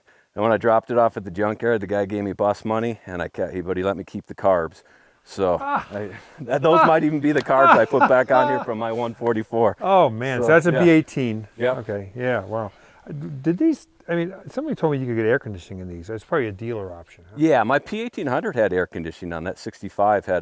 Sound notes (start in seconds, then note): 5.5 laughing